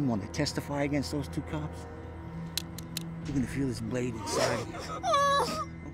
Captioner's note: Sarah crying